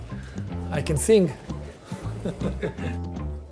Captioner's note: bright music; laughs